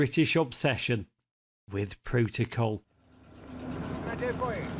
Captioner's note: engine revving